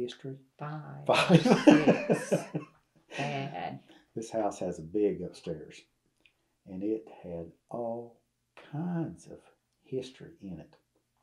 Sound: laughs

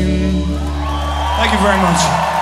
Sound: audience cheering

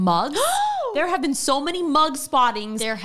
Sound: gasps

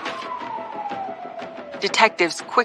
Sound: sirens wailing

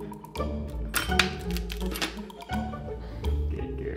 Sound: bell dinging

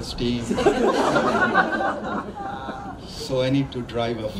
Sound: crowd laughs

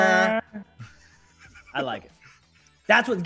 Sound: laugh

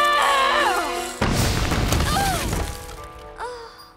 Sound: groaning; rumbling, groaning

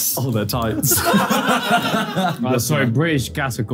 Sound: laughs

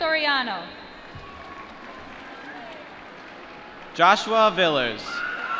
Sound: applause

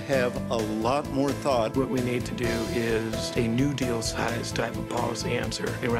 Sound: voice muffled

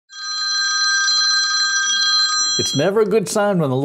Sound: phone ringing

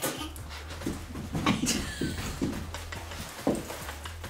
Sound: giggling

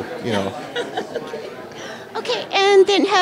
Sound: laughter

